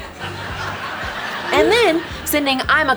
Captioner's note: audience laughing